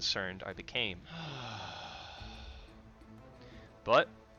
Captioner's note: deeply sighs